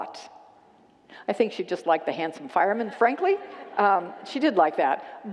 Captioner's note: congregants laugh